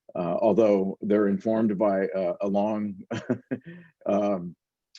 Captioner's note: laughing